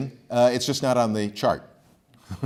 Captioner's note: laughs